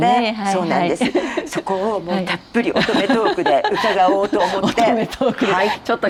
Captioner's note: laughs